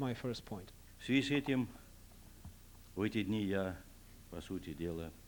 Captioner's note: non-english speech